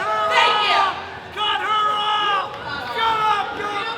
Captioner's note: crowd cheering; man shouting